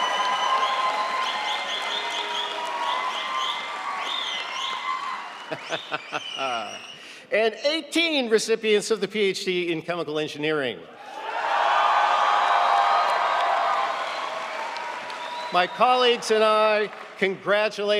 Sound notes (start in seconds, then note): 5.5 laughing; 11.1 audience cheering